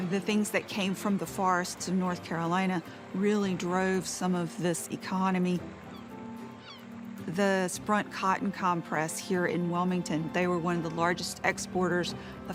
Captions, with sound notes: the things that came from the forest to North Carolina, really drove some of this economy. [gentle music] [gulls squawking] The Sprunt cotton compress here in Wilmington, they were one of the largest exporters